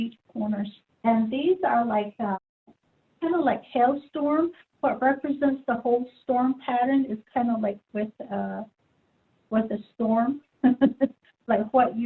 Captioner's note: laughs